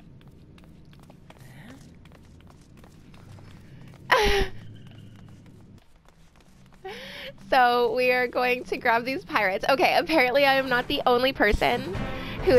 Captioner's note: laughing